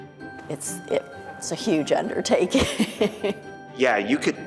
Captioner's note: laughing